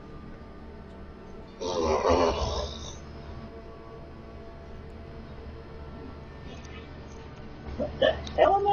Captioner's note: farting noise